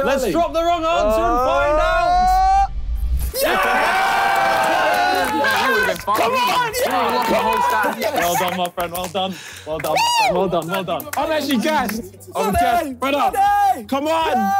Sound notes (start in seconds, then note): 3.3 cheering